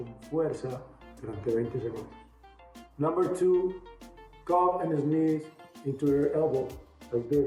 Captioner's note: \repeating in spanish\